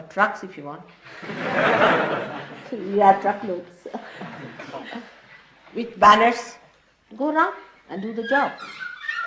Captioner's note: laughter